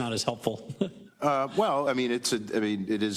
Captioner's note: laugh